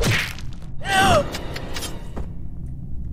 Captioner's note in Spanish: grita